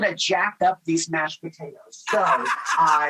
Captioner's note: Rachael laughs